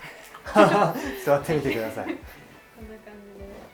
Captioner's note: laughter